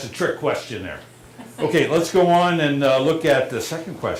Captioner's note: laughter